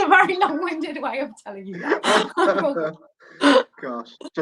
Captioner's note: laughing